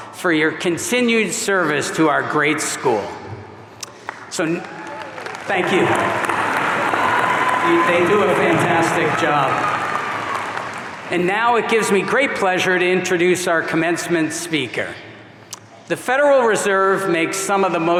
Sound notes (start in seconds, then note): 4.3 audience applauding; 4.4 audience cheering